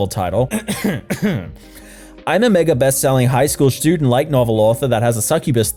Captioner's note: deep breath